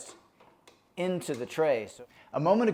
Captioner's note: tray clicking